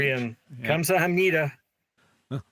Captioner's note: speaking in foreign language